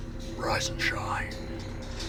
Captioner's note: whispers